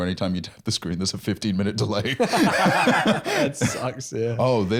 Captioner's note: laughs